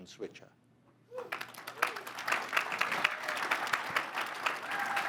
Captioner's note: audience applauding